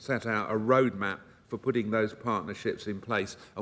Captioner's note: none